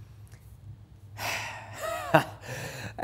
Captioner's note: sigh